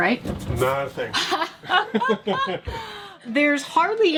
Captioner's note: laughing